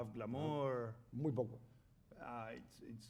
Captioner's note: speaking spanish